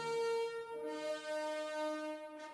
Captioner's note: none